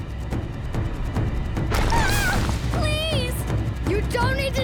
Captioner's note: screaming